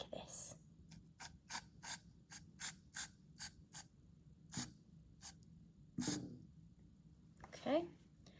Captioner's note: sounds of can squriting out foam